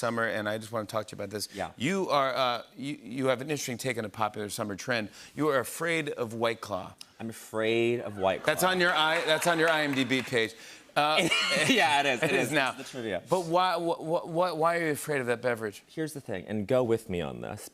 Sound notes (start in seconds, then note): 11.1 laughs